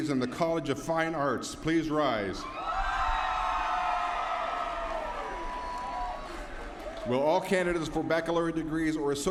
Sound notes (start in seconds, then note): 3.7 applause